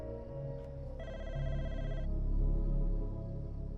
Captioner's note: slow ominous music; phone ringing